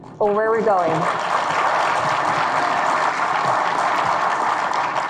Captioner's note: audience claps